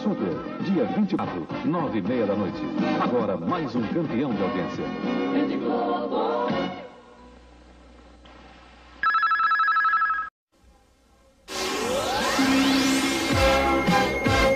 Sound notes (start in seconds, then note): 9.0 communication signals dialing; 11.4 retro music resuming